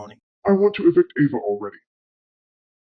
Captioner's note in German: verzerrt